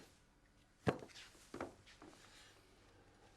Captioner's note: none